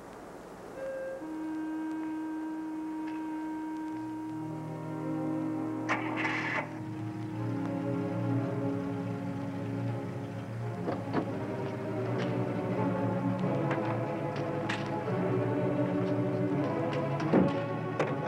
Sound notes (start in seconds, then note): 0.7 melancholy music; 5.6 engine ignition clicking; 12.5 suspenseful music